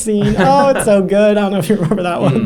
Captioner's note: laughs